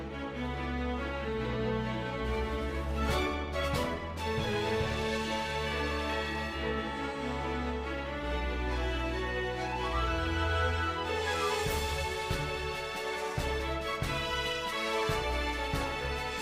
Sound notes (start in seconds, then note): none